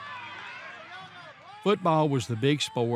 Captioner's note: crowd cheering